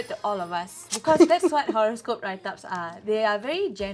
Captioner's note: laughs